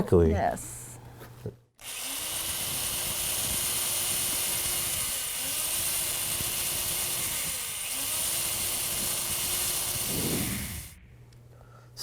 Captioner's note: sound of a drill